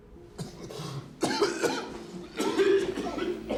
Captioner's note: coughs